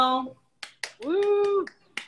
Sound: claps

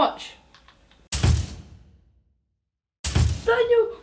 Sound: thumping

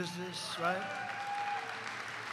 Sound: applause

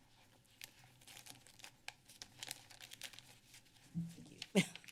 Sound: rustling sounds; laughs

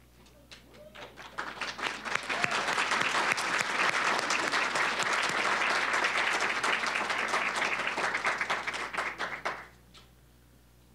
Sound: applause

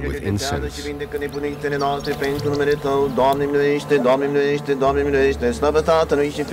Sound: people chattering in foreign language

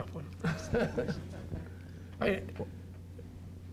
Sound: laughter

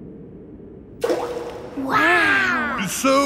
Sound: rock plops

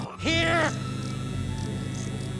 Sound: electricity buzzing

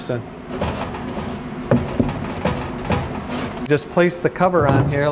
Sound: tray rattling

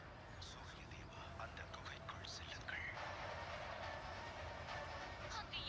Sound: television Noise

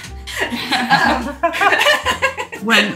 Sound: laughing loudly

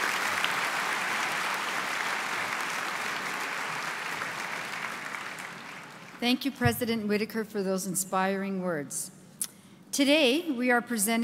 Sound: applause

